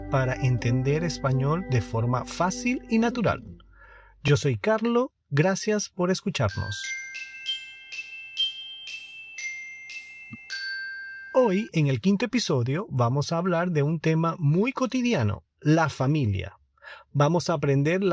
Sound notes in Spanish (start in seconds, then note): 10.4 campana